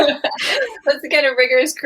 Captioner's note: splutters